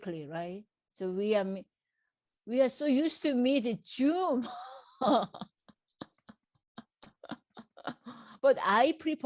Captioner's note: laughs